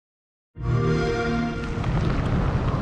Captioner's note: Xbox sound; wind whistling